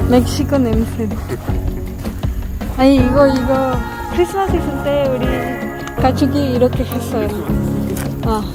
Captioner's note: bonfire